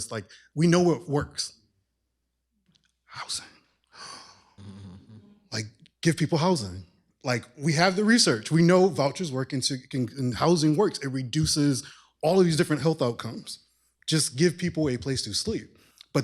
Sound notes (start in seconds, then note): 2.7 whispers; 4.0 gasps, imitates explosion